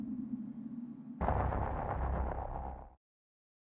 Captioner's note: static sound